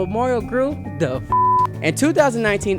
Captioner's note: beep